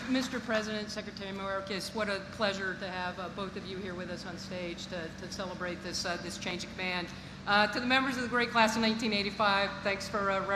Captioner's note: applause